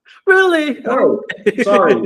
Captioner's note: laughs